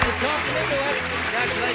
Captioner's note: applause